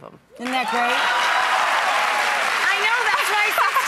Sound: audience cheers and applauds

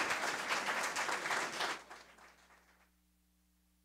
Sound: audience applause

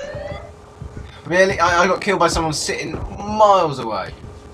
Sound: stammers

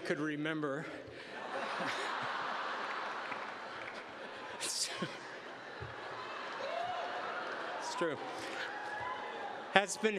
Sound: laughter

